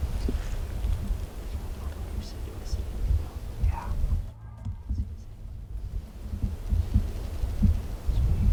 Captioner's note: whispering